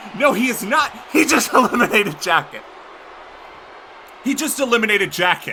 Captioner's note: laughs